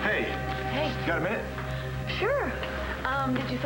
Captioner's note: door opens